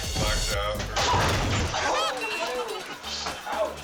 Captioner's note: man thudding; guests gasping